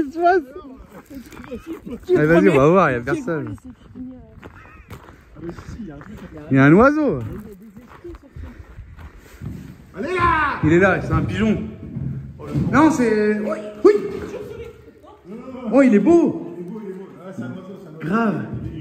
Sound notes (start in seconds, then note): 0.8 laughs